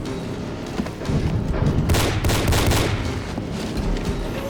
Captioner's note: gunshot